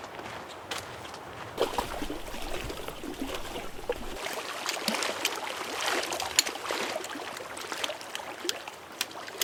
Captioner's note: sound of small waves on the lake shore